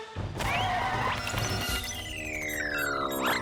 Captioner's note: computer beeps and whirs